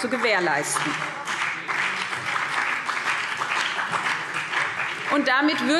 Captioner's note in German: Beifall BÜNDNIS 90/DIE GRÜNEN und vereinzelt CDU